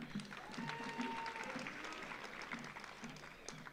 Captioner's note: audience applauds